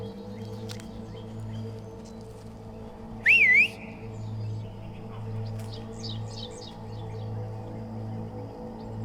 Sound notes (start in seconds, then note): 3.2 man whistles; 4.8 dramatic music